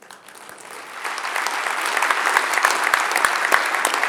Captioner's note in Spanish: audiencia aplaudiendo